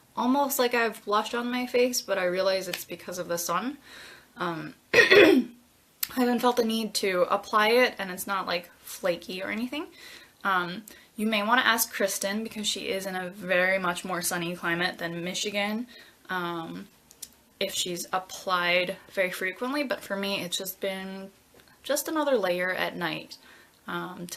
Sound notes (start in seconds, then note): 4.9 clears throat